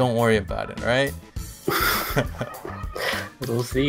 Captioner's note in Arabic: يضحكون